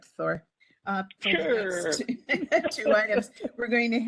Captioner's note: laughing